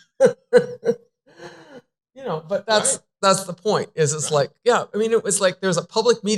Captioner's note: laughter